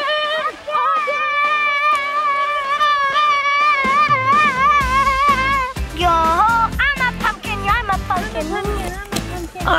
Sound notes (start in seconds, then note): 0.0 cheering; 2.9 upbeat music